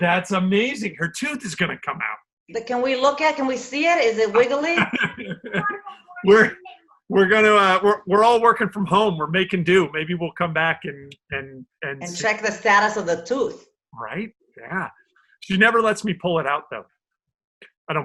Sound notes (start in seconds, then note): 4.4 laughs